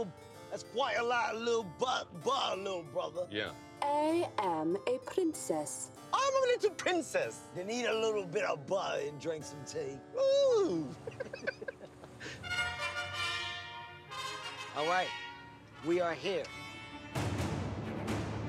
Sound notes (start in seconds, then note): 5.7 high-pitched voice; 7.9 British accent; 10.2 high-pitched voice; 10.6 both laugh